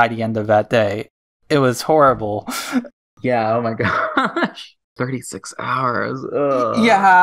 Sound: laughs

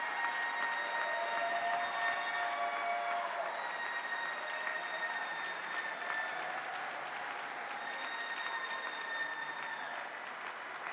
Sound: cheering; cheering and applause

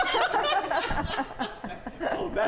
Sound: laughs

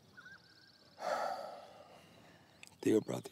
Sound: Cody sighs

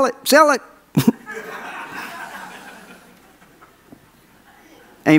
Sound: audience laughs

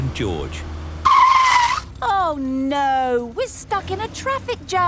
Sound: tires screeching

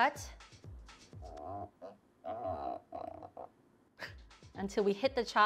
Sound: mushroom squelching

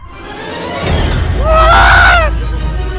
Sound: shouting

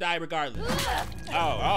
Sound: Ellie grunting; Nora groaning

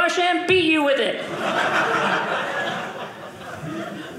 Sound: audience laughing

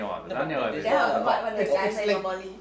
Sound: speaking foreign language

